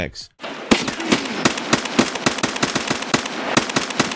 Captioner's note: gunshots firing